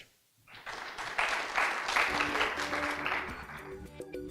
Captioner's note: audience applauds